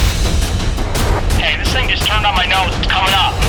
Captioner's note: voiceover